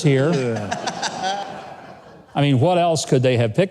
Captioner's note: audience laughing